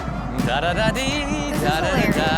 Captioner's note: Rob vocalizing